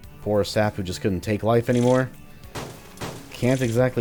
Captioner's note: smashing intensifies